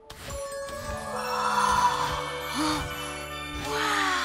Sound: gasps

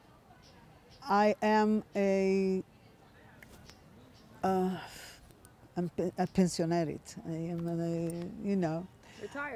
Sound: hebrew

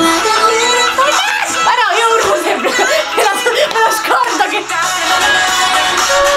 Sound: screams

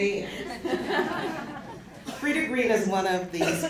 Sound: laughter

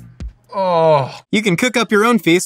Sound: groans loudly

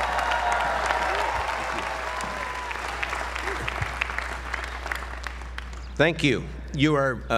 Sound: applause

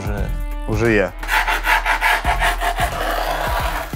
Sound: scratching

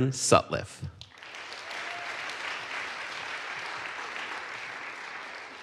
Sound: audience applauds

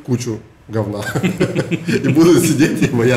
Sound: both laugh

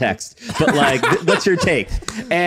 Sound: laughing

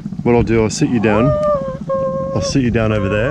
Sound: woman cries

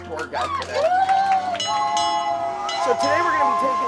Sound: applause; bell ringing and steam whistle

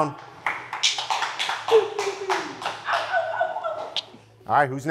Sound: contestants clapping

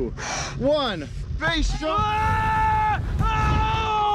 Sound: yells

